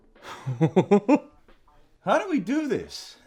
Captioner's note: chuckles